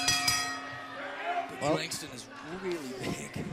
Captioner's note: bell ringing